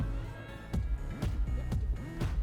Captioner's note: audience members cheering